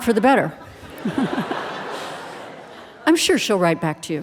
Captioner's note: audience laughing